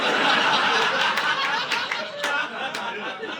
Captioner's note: audience laughing